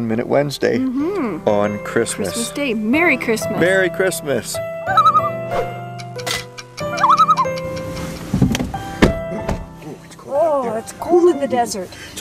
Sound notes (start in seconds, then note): 4.9 loon calls; 6.8 loon calls